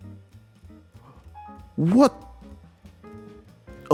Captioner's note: Windows warning sound plays